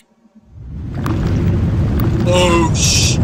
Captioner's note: crumbling noises